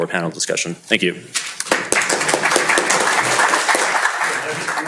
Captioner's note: applause